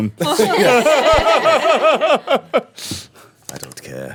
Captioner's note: laughing